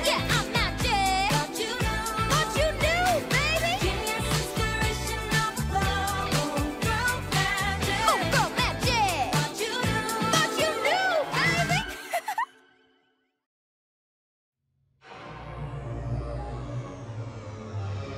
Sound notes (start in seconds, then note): 11.9 giggling; 15.0 tense music playing